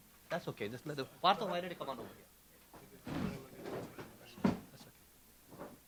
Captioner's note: speaking in foreign language